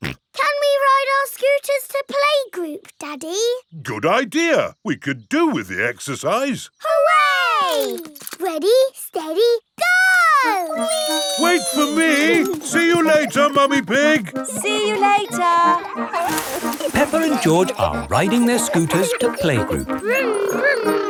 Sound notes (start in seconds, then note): 0.0 snorts; 15.9 peppa and george laughing